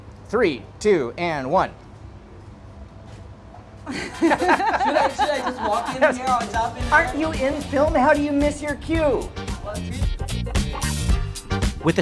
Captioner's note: laughing